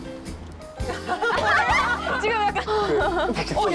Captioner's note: both burst out laughing